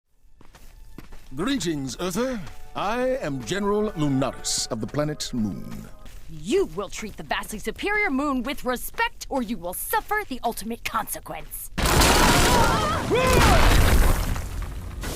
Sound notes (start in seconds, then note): 11.8 sounds of ground collapse